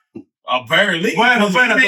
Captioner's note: speaking In Foreign Language